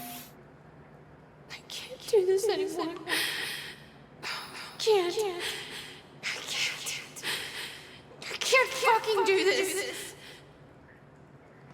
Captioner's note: sobbing, as an echo from the past